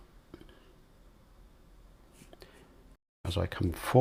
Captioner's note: silence